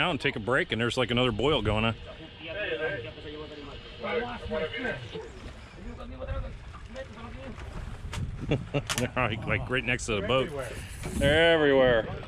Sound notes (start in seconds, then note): 8.3 chuckling